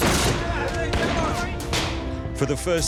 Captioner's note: pistol fires; rifle fires